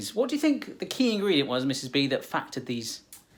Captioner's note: none